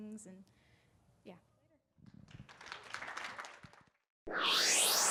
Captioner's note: audience applauding